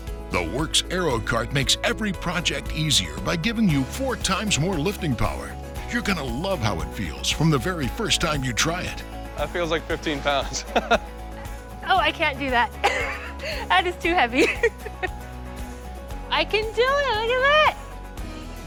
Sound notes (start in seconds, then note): 10.4 laughs; 13.2 laughs; 15.3 giggles